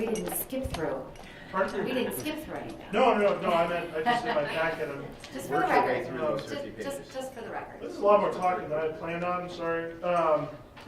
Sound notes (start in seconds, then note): 3.6 chuckling; 3.6 laughing; 6.2 laughing